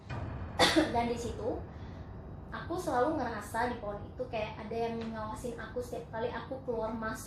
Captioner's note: cough